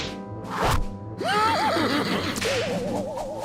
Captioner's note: laughs